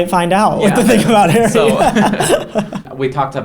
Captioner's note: Jake laughs